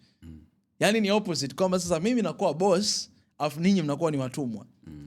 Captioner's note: clearing throat